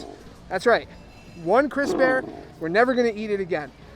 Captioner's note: bear roaring; bear roaring